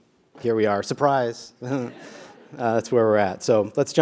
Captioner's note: laugh